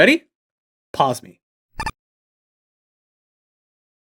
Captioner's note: icon beeps